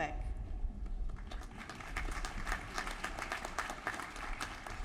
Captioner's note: applause